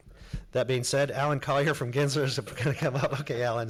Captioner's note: laughs